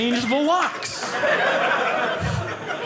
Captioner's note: audience laughing